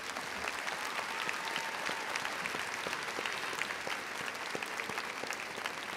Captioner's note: audience applauding and cheering